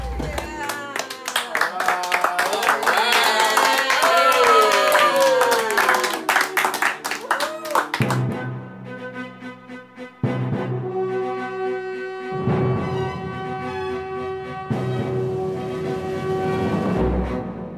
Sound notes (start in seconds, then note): 0.0 cheering and applause